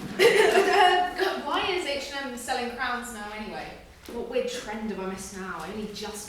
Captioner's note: coughs